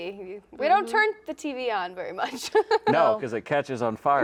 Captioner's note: laughs